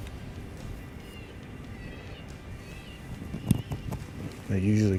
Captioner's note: animal calls